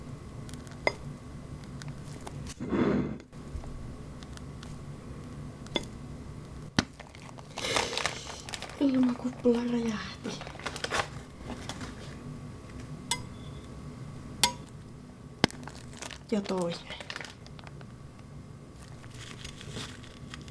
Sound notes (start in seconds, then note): 10.6 in Finnish; 17.0 in Finnish